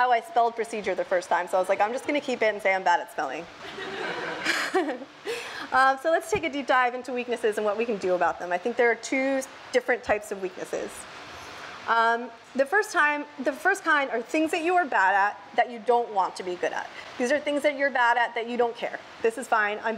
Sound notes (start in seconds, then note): 3.7 laughs